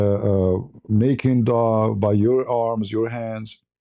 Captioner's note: none